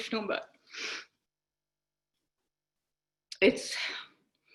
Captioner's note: sniffs